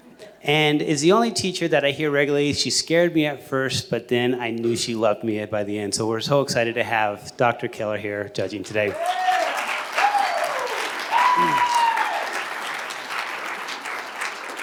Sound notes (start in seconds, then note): 8.9 cheers and applause